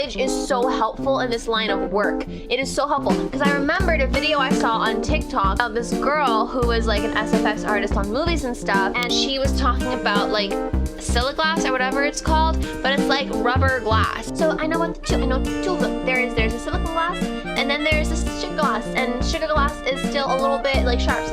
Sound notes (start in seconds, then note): none